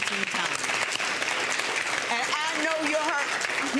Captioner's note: audience applauds